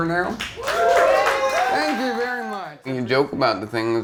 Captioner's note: crowd cheers